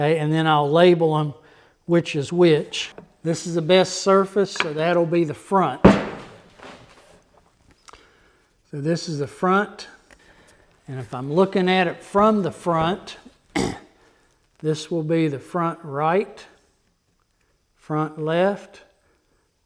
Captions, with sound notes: Okay, and then I'll label them which is which. This is the best surface so that'll be the front. So this is the front. And if I'm looking at it from the front (clears throat) this will be the front right, front left,